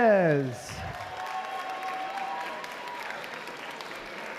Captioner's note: applause